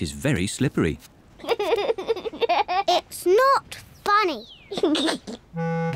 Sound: giggles; giggles

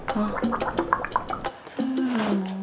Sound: glug glug

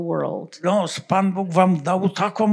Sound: foreign language

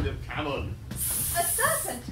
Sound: snake hisssing

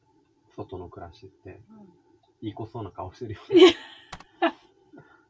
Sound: laughs

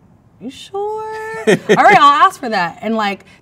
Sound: man laughs

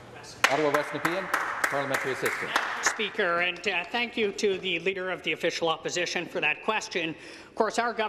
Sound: some Applause

